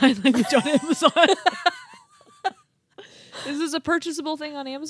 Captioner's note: laughing